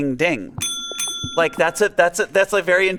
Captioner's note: bell dinging